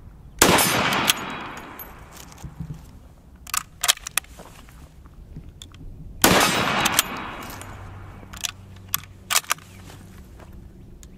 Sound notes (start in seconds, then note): 0.4 gun shot; 3.4 ammo reloading; 6.2 gun shot; 8.6 ammo reloading